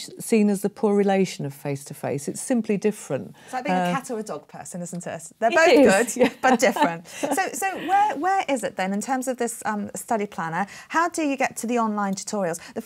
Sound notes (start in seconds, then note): 5.9 laughs